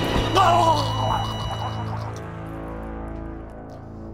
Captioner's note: dramatic tune; sustained beep